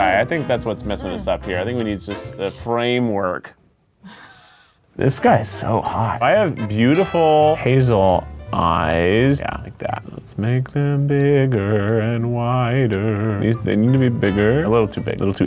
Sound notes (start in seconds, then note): 4.0 laughing